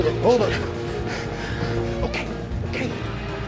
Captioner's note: panting